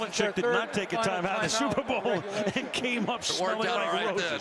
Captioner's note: laughs